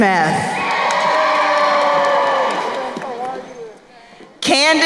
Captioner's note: crowd cheering